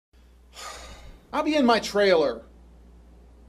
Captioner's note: whew